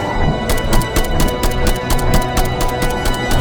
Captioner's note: gun blasting